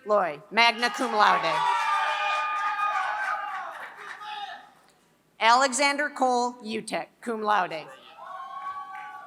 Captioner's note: applause